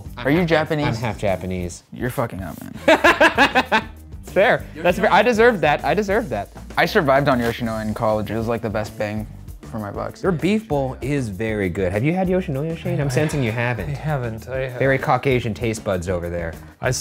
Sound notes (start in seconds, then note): 2.8 laughing